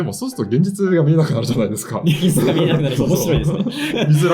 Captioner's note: laughs